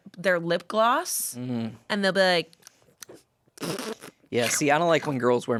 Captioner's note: smacks lips